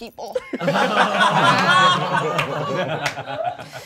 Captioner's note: all laughing